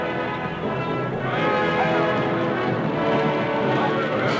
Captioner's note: yelling